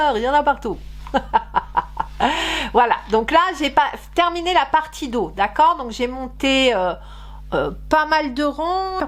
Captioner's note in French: rires